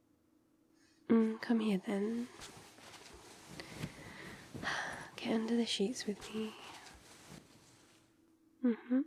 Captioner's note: shuffle shuffle